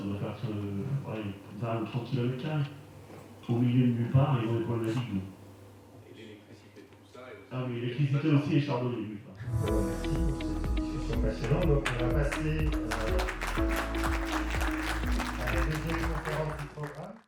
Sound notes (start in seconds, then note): 11.1 applause and music